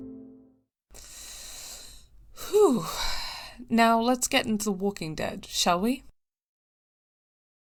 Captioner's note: takes a deep breath